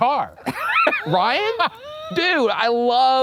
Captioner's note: laughs